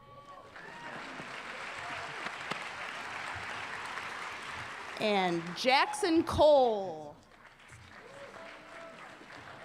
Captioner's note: applause